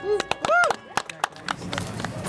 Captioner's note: clapping